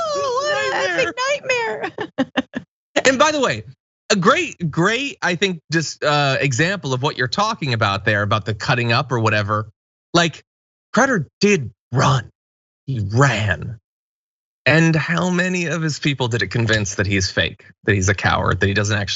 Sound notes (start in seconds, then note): 0.0 laugh